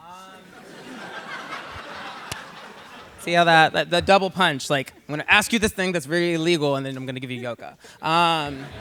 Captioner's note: laughter